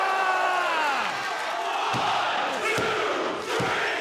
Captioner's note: crowd cheering